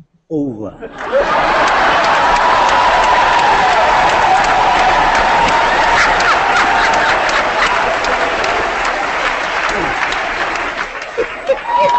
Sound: applause

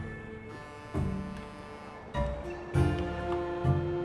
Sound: foghorn honks

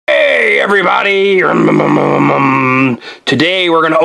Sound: makes truck revving sound

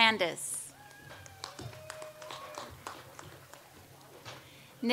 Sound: audience applauds

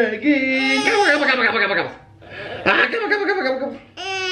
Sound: baby talk

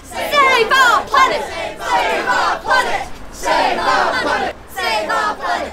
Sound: protest shouting continues

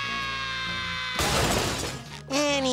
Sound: loud crash

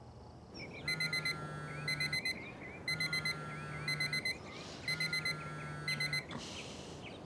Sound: birds chirp; phone vibrates and bleeps

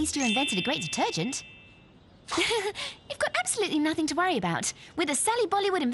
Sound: laugh

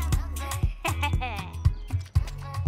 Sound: chuckles

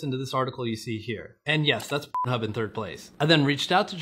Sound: beep

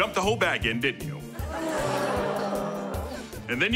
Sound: groaning

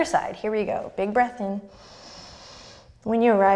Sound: deep breath

